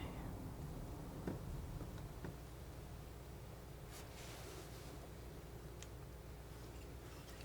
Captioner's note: scratching